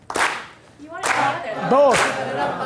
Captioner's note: voiceover